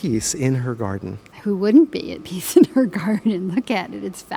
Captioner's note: chuckling